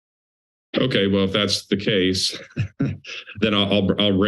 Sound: laugh

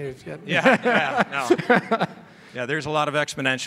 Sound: laughing

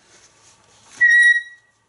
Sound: whistle

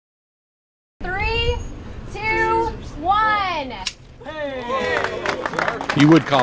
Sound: applause

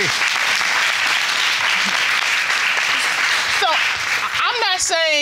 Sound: applause

